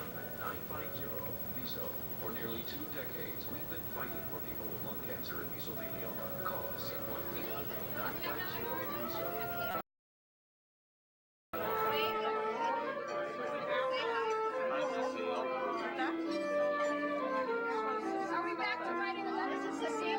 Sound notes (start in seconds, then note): 7.7 chatter